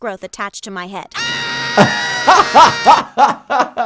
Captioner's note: Kyle screams; laughs